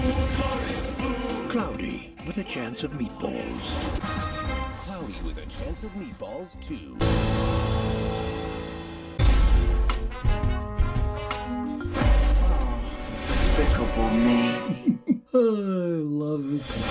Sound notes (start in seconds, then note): 14.5 chuckles; 14.5 sighs